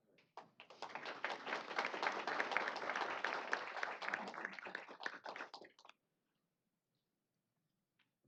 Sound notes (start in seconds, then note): 0.3 applause